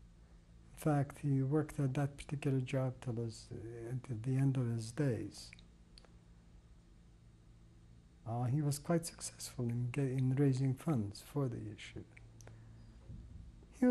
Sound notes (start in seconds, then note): 5.1 pauses for 3 seconds